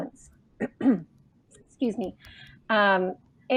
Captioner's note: clears throat